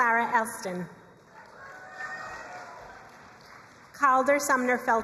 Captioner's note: crowd cheering and applauding